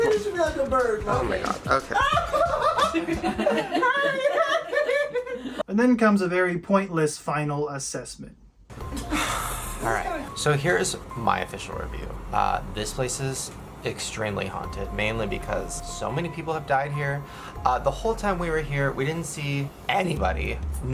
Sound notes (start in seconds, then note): 1.7 more hysterical laughter; 1.8 wild laughter